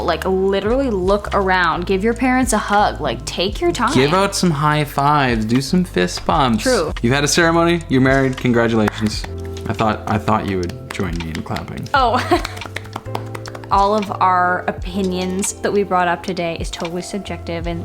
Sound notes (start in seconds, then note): 8.8 clapping; 12.0 laughing; 12.1 clapping